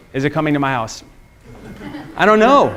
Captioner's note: students laughing